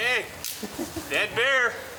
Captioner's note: tree branch snaps